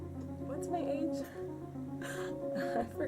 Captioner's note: laughs